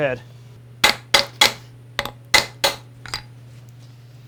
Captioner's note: hammer bangs